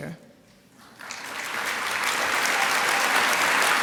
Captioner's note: applause